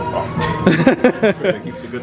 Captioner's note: they laugh